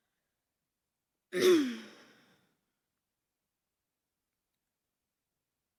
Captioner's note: clears throat